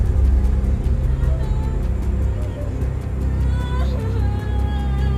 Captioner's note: woman sobbing